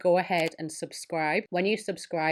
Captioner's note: mouse clicks